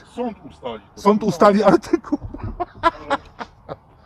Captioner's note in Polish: śmiech